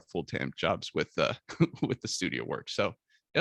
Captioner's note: chuckles